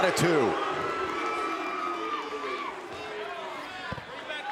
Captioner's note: crowd booing